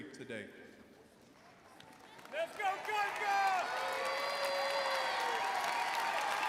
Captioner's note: audience cheering and applauding